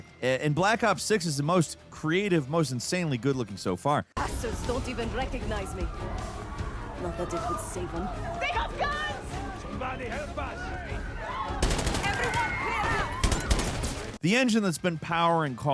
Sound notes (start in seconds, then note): 11.6 gun firing; 13.2 firing continues